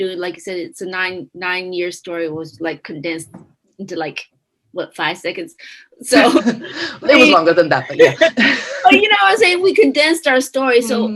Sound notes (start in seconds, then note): 7.9 chuckles; 8.7 laughs